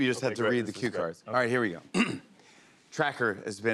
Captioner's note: clears throat